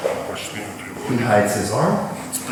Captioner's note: speaking in a foreign language